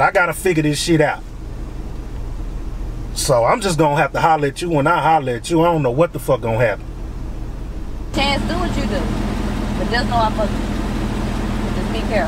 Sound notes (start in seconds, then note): none